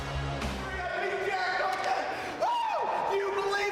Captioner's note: Kurt cheering